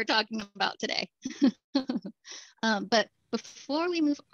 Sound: laughter

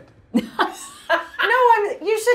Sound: laughing

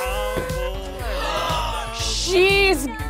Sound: gasping

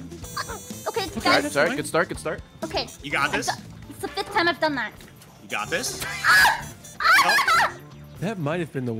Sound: laughs

